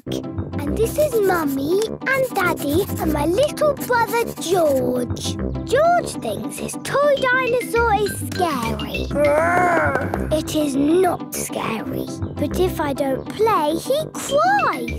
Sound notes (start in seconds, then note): 9.1 growls